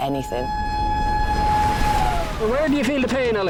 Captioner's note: alarm blaring